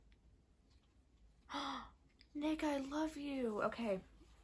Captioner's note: gasp